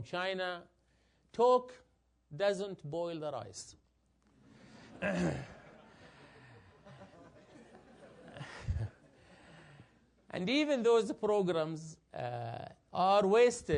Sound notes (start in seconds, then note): 4.9 laugh; 5.0 cough